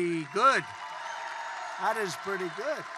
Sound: applause

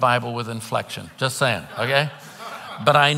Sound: congregants laughing

